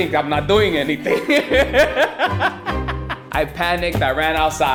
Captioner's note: laughter